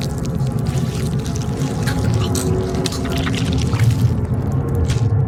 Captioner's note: wet noises